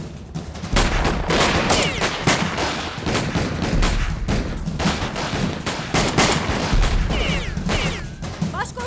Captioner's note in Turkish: si̇lah sesleri̇